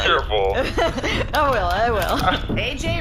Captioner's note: laughing